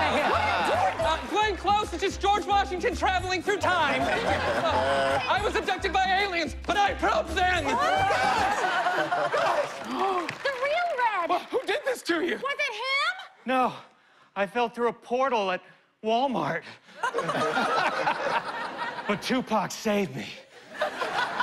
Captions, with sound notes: - What are you doing? - Glenn Close is just George Washington traveling through time. I was abducted by aliens, and I probed them! [clamoring] - The real Red. - Who did this to you? - Was it him? - No. I fell through a portal at Wal-Mart. [laughter] But Tupac saved me.